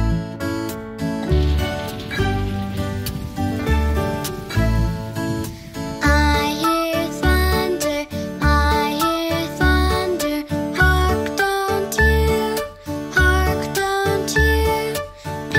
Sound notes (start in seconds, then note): 1.2 thunder roars and rain patters